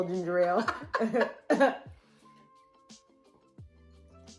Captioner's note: laughter